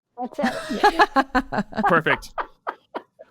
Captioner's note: people laughing